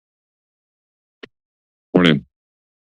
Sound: silence

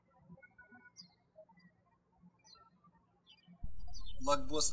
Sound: birds chirping

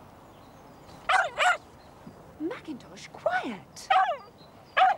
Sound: dog barks

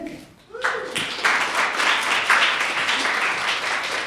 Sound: applause

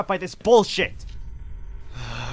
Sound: structural groaning; sigh

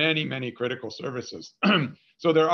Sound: clearing throat

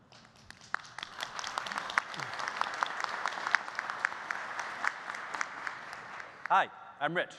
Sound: applause

